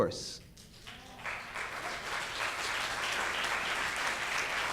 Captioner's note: audience claps